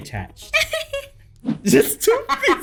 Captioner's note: giggles